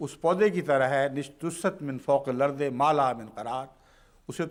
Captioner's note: Arabic